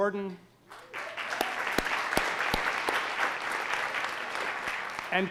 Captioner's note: audience applauding